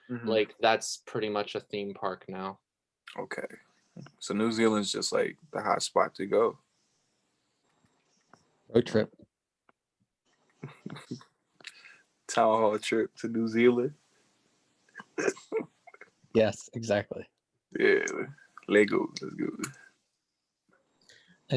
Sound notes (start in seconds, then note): 10.6 snickers; 15.0 laughs